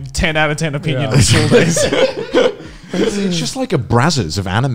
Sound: laughing loudly

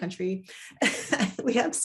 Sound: chuckles

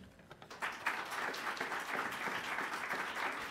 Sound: applause

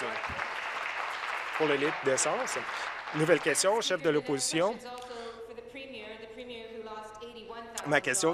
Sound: applause

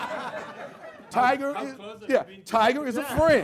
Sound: laughter

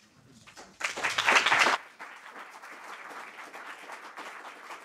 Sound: audience applauding

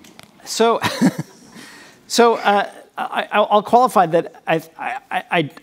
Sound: chuckles

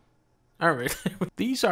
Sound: laughs

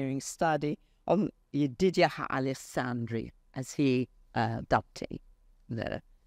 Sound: speaks foreign language

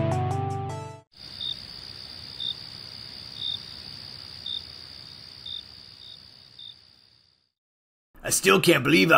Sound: crickets chirping

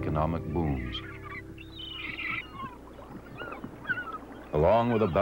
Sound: birds squawking

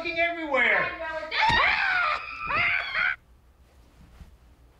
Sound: both scream

